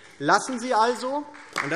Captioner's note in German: Beifall DIE LINKE